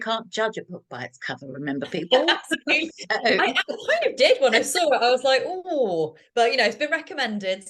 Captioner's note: laughter